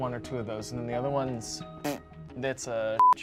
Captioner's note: blows raspberry; beep